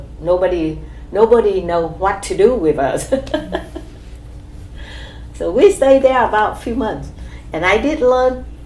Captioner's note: laughs